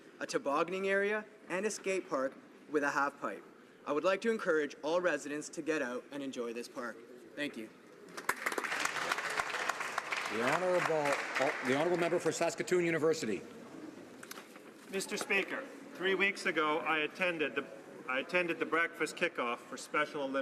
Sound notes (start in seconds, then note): 12.1 some Applause